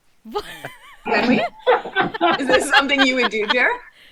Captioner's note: all laugh